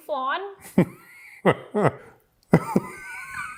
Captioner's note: laughs